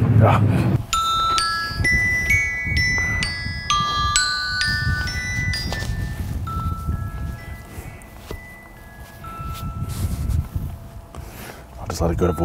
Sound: phone chimes

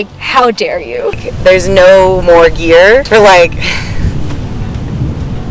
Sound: laughs

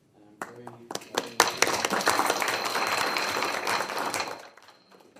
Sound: trustees applaud

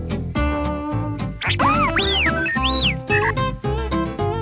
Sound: R2D2 chirping noises

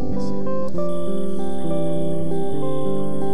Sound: crickets

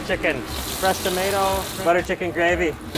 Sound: tomato sizzling

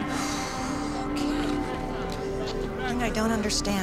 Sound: exhaling

